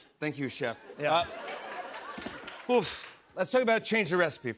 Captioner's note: laughter